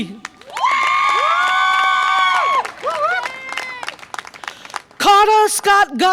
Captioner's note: audience applause and cheer